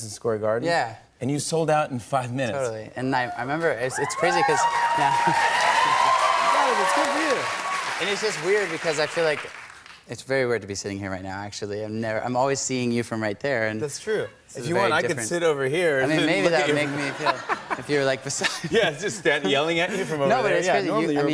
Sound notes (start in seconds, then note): 3.9 cheers and applause; 5.9 chuckles; 16.4 laughter